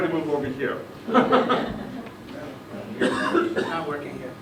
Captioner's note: laughter